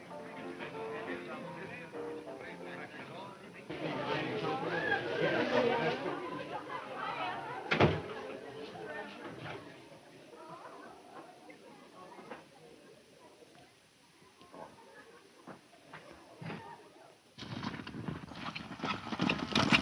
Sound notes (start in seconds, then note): 4.0 people chattering; 7.7 door slams shut; 17.3 horses galloping